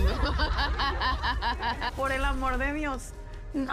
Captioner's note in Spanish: todas ríen